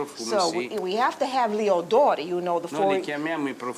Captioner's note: speaking Italian